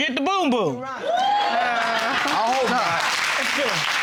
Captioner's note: audience applauding